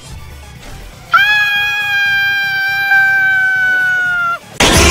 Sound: scared bunny scream

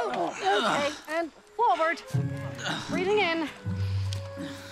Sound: Rikki and Sam grunt

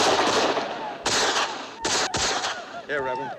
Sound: gunfire; whooping continues

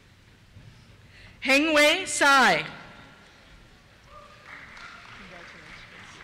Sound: cheers

